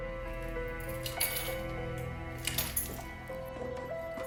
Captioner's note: keys jangling